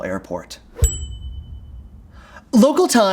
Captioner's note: bell dinging